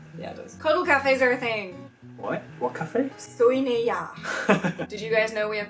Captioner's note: laughs